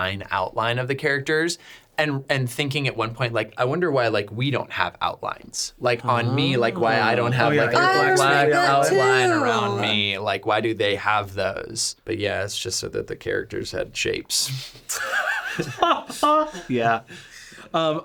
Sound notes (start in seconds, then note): 14.9 laughing